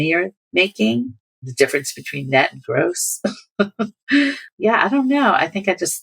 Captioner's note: laughter